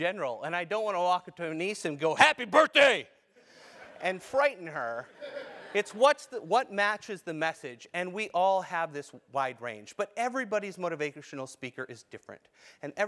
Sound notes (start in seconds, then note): 5.1 laugh